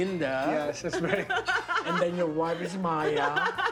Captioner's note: laughs